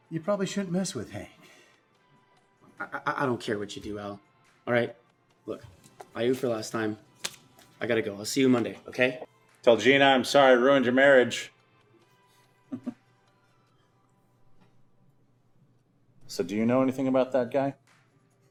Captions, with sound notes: You probably shouldn't mess with Hank. - I don't care what you do, Al, all right? Look, I owe you for last time. I gotta go, I'll see you Monday, okay? - Tell Gina I'm sorry I ruined your marriage. (chuckles) So do you know anything about that guy?